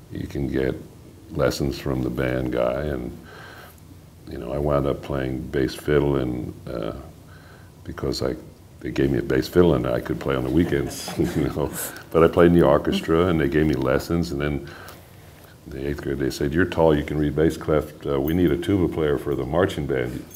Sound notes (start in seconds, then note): 10.9 laughter